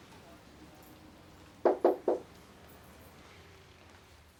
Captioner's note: hand knocks